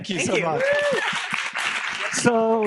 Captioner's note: audience clapping